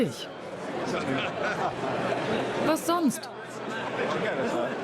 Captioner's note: crowd chatter